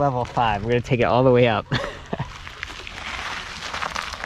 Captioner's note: laughs